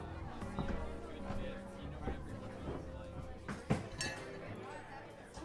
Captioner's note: bar patrons chattering